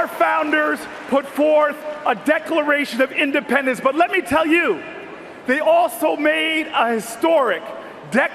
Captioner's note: cheers and Applause